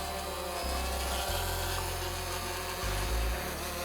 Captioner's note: spinning blades